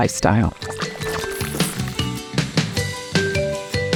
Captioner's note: transition gushing; upbeat music